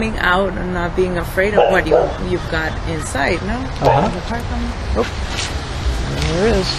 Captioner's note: sound of car in the alley